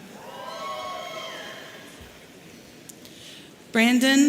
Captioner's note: audience cheering